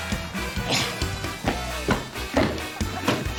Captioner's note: grunts